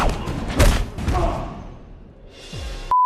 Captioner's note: grunting; beeping